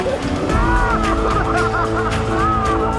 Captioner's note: laughs